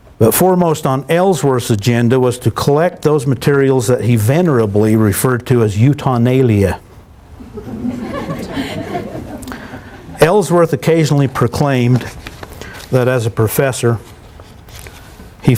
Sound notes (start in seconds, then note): 7.4 laughter